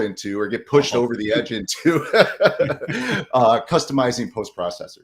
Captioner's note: laughs